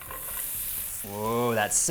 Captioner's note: onions sizzling